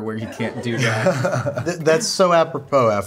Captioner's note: laughing